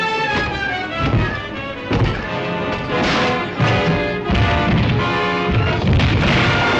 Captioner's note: suspenseful music; door thuds